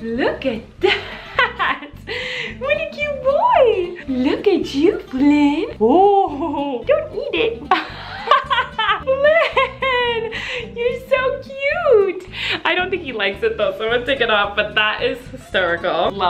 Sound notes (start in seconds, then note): 0.8 laughs; 7.4 laughing